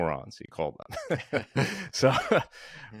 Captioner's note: both laugh